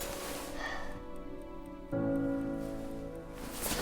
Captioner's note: alarm ringing; Lily yawning